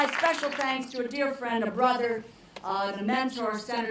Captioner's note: applause